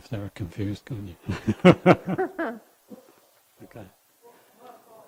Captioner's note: laughing